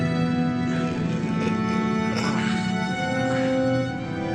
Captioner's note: gasping